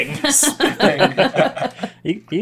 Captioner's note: laughter